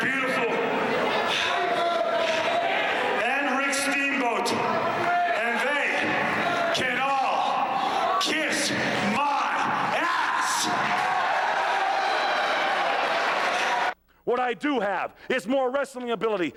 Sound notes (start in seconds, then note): 10.9 crowd cheering